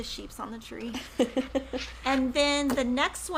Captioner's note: laughs